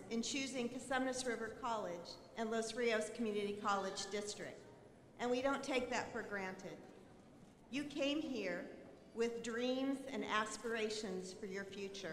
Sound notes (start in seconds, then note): none